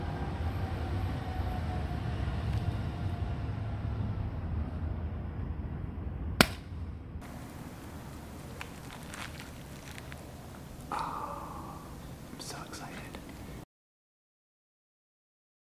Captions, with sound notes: (car whooshing) (pod smacking) (fruit flesh squelching) Ahh, I'm so excited.